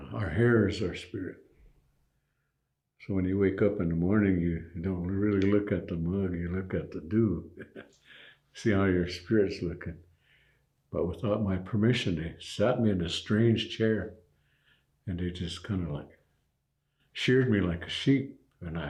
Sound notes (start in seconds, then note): 7.4 chuckles